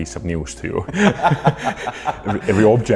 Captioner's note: laughter